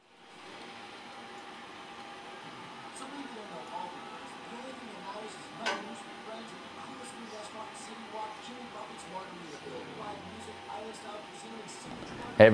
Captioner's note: radio talking in background